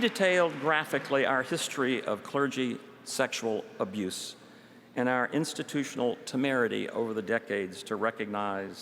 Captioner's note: applause